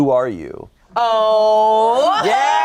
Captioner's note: everyone laughing